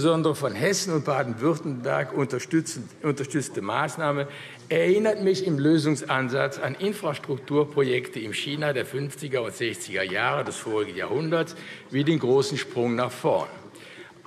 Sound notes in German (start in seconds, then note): none